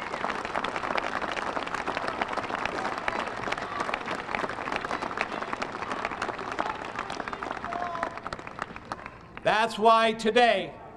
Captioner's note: applause